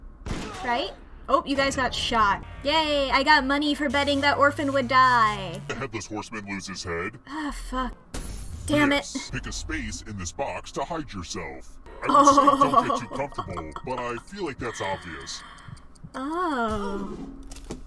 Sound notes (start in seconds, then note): 12.0 chuckles